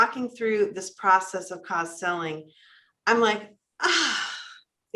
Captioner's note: sighs